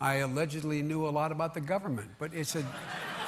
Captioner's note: laughter